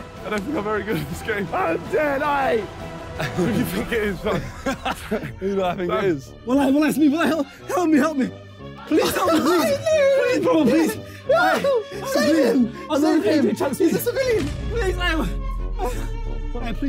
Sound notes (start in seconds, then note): 3.1 laughing